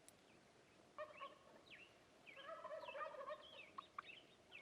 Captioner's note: turkey gobbles